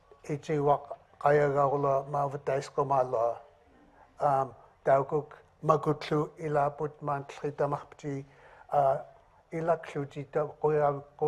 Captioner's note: speaking in another language